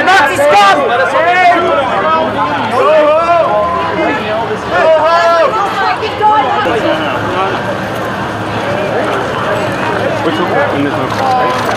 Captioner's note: shouting